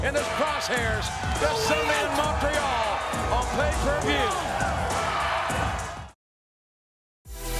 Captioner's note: crowd cheering